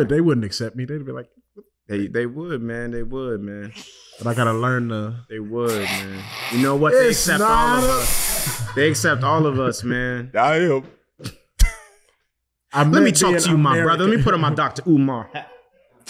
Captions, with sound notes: they wouldn't accept me. They'd be like... - They would man. They would man. - But I gotta learn the... - They would, man. - You know what? They accept all of us. They accept all of us, man. - I am. (chuckles) - I meant being American. - Lemme talk to you, my brother, lemme put on my Dr. Umar hat.